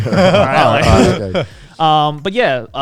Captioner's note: chuckling